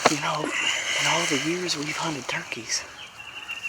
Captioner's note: whispering